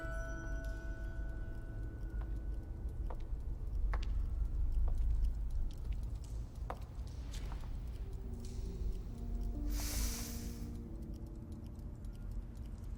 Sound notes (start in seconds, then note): none